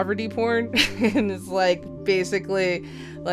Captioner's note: laughs